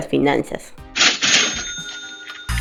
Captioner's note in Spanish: Sonido caja registradora